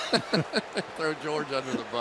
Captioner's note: laughter